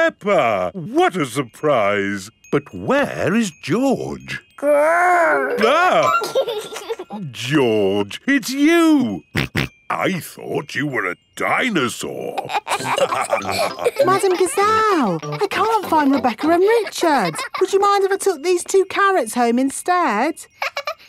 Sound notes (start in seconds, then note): 5.1 giggles; 6.3 exclaims; 9.6 snorting; 12.4 all laughing; 20.6 laughs